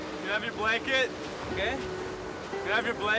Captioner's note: spanish